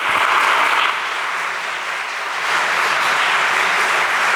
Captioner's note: audience applauding